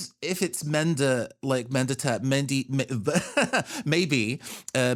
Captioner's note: laughs